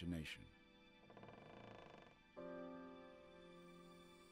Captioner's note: loud creak